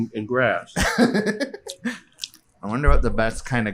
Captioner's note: laughs